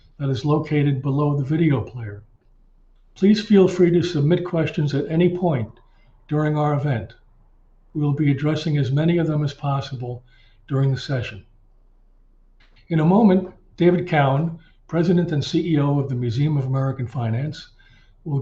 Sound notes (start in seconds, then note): none